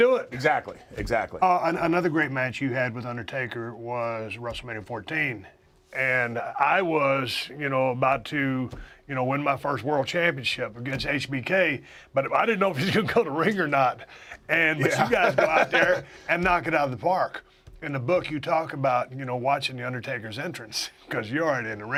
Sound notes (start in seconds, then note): 14.7 laugh